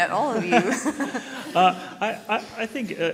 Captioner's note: panel laughs